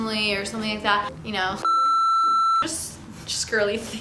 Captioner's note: beeping